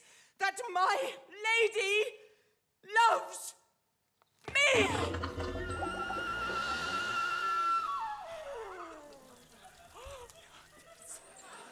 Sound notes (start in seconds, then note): 4.5 water gurgling; 5.8 cheerful flute music; 9.1 water trickling; 9.9 gasping